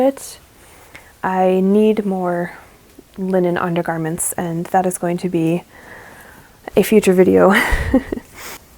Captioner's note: laughs